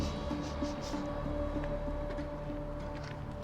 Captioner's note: sniffing